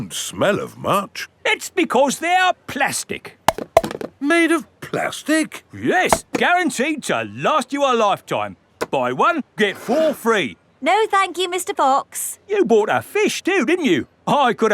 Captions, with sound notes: They don't smell of much. -It's because they're plastic. -(CLUNKS) -Made of plastic? -Yes! Guaranteed to last you a lifetime! Buy one, get four free. No, thank you, Mr. Fox. You bought a fish, too, didn't you?